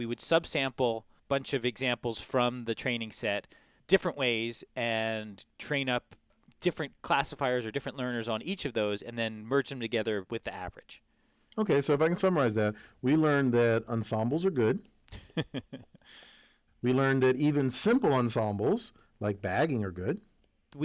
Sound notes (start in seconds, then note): 15.1 laugh